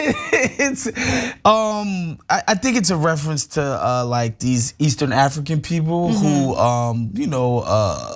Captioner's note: laugh